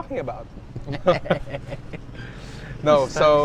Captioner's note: laughs